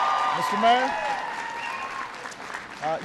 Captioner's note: applause